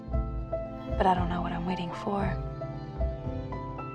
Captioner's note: voiceover